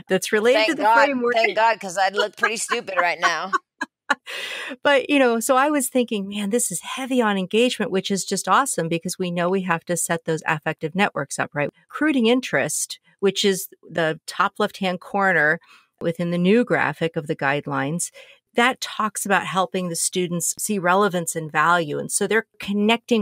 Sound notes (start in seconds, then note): 4.1 laughter